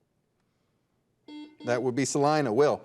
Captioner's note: buzzer dings